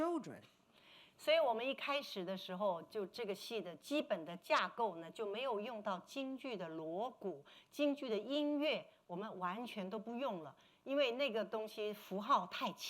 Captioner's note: speaking Mandarin